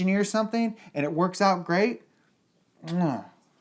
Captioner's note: kisses